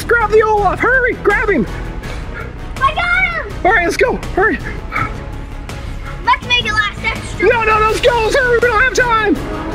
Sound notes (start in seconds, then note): 4.6 panting; 9.5 dinosaur roars in distance